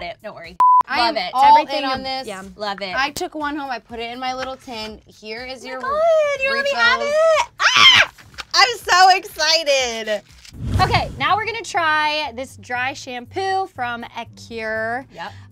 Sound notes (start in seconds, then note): 7.8 squeals